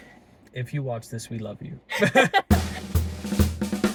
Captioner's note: laughing